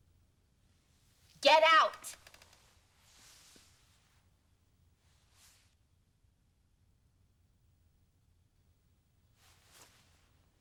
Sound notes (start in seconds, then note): none